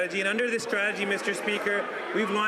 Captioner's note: applause